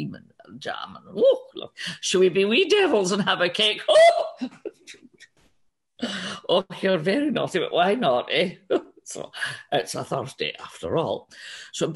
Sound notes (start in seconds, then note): 4.3 chuckles